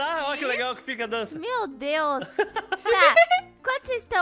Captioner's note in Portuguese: riem